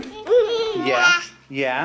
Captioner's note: babbles